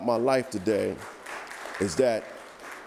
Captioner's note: audience applauding